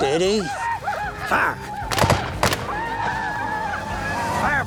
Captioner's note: gunfire